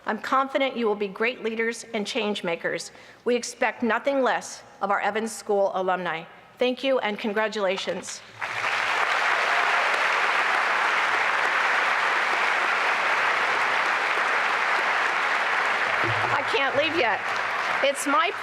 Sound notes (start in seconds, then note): 8.2 applause